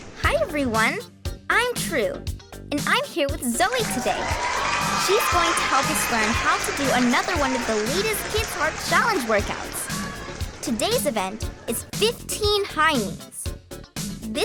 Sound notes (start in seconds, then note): 3.6 audience cheering